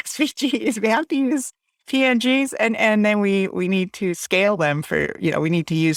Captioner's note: laughs